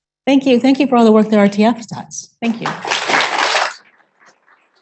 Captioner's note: applause